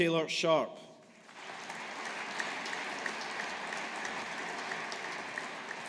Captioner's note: audience applauding